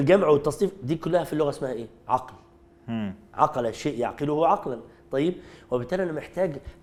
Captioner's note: Arabic